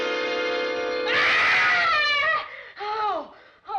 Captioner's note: screaming